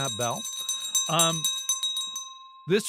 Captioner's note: bell ringing